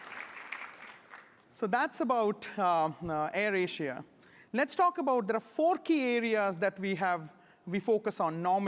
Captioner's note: applause